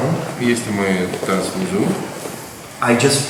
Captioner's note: speaking in a foreign language